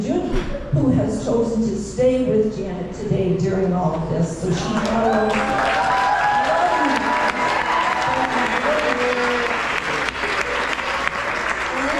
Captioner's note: applause